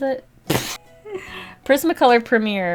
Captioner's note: laughs